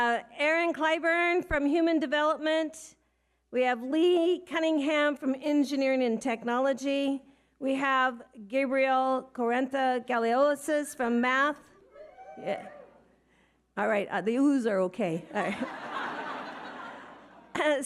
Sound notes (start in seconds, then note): 11.9 audience members oohing; 15.3 audience laughing